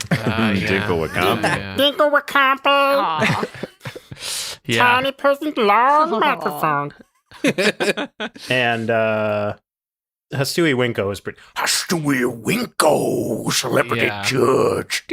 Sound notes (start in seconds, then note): 2.6 Dinkle voice; 10.6 hastooie voice